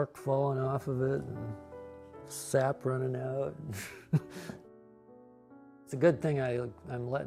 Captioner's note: chuckles